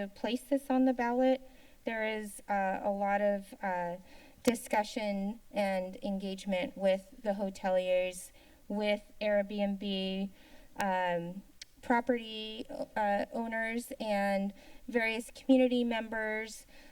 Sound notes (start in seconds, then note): 11.6 tongue clicking